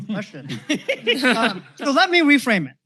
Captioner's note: laughter